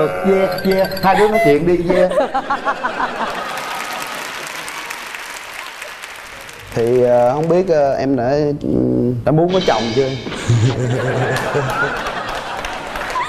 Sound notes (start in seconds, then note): 3.1 audience applause; 10.4 laugh